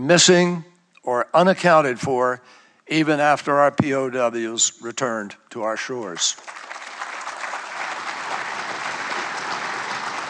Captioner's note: applause